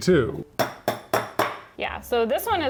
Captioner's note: metal clinking